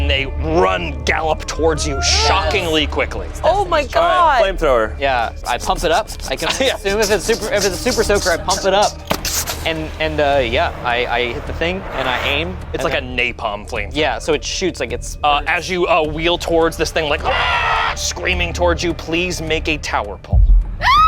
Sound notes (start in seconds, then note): 17.2 screams